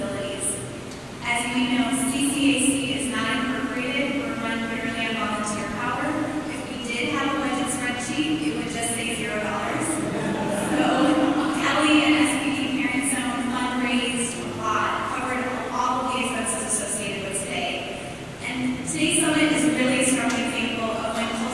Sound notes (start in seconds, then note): 15.3 laughter